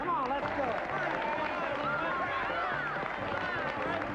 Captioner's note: overlapping chatter